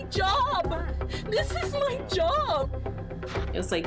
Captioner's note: tearfully